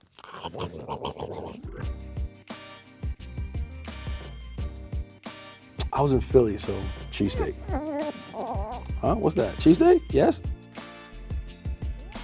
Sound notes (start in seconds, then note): 2.1 hip hop music; 7.2 growling